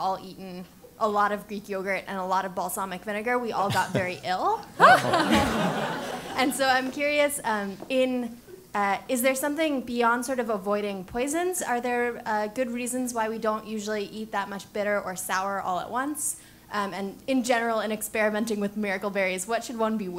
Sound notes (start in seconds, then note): 4.8 laugh